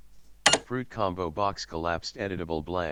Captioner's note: automated Voice